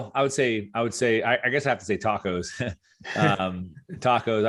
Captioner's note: chuckles